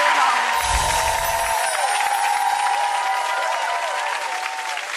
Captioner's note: audience applauding